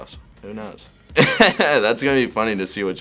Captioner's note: laughing